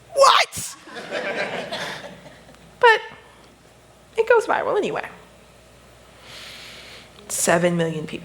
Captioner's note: laughter